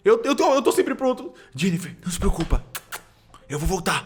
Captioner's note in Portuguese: barulho de beijo